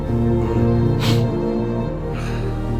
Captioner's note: sniffs